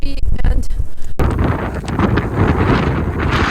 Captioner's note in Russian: шум сильного ветра